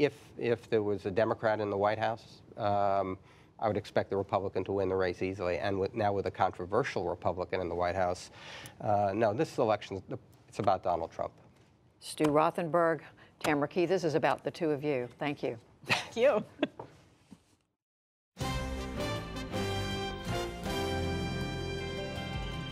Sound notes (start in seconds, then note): 15.8 laughter